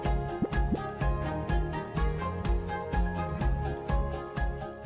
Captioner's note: bubbles popping